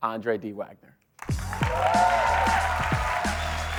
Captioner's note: cheers, applause